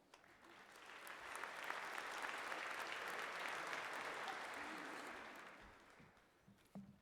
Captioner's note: applause